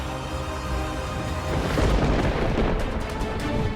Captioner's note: thunder cracking